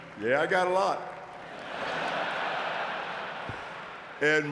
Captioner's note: audience laughing